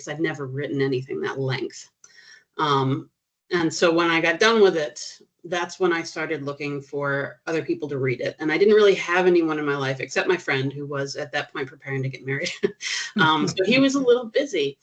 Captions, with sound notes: I’d never written anything that length. And so, when I got done with it, that’s when I started looking for other people to read it. And I didn’t really have anyone in my life except my friend, who was at that point preparing to get married [CHUCKLING] . So, he was a little busy.